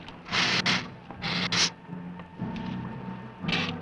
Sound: hissing

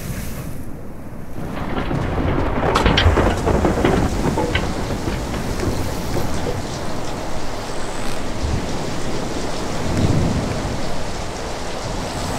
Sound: waves crashing

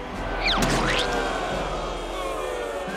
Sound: crowd booing

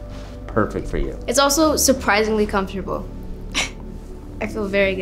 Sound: laughing

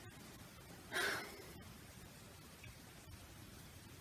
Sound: sighs

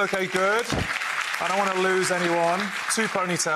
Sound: audience clapping

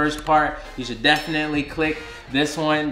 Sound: bell dinging

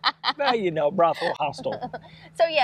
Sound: laughing

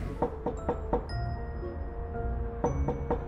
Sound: knocking

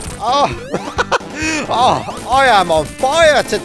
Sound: laughs

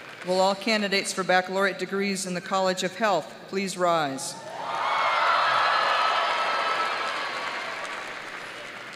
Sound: cheers and applause

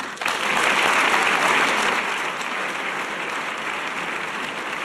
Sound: audience applause

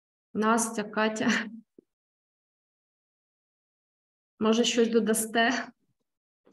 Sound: speaking ukrainian

